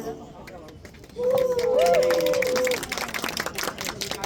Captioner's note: applause